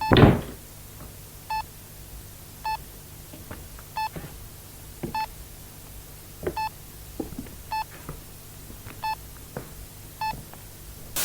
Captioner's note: Bruce continues searching the rest of the room as the EMF meter beeps steadily